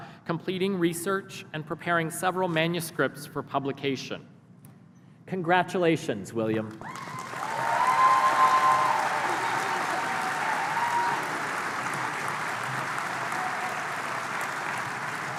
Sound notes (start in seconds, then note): 6.7 applause